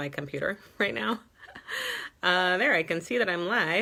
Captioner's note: giggles